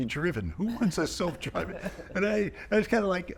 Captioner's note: chuckling